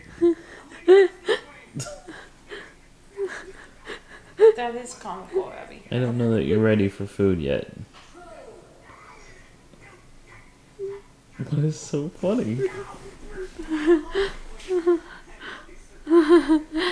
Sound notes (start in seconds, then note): 8.3 TV background noise; 13.9 laughing